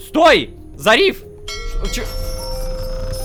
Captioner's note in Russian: Звук корабельного колокола